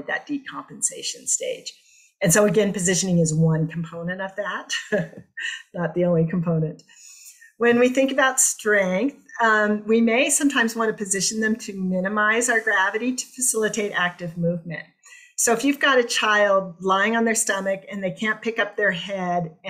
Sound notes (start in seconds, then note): 4.8 laughter